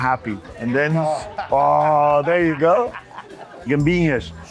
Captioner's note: laughs